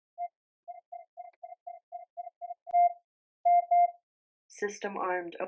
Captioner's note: faster rhythmic beeping